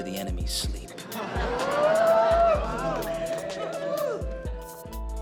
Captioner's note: laughter and whooping